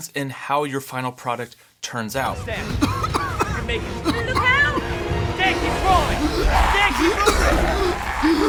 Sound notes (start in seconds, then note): 2.6 coughing